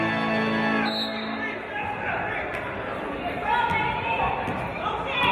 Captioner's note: referee's whistle